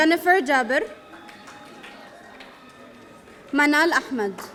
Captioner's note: audience applauding